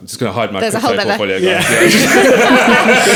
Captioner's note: laughing